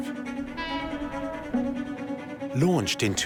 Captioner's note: train horn blows